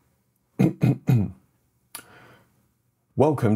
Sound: coughs

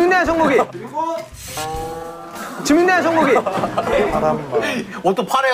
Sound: frustrated

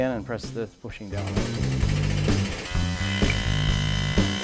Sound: whirring

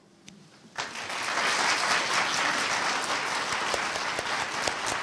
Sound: audience applauding

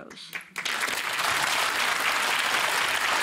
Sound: applause

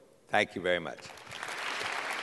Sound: applause

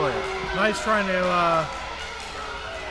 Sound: crowd yelling

